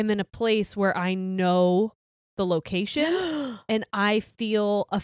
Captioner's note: gasps